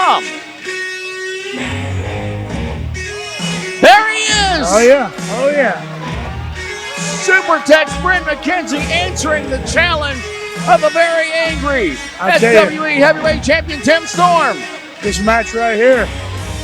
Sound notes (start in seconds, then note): 0.3 rock music playing; 7.1 audience cheering